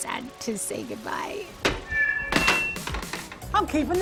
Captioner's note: feedback whines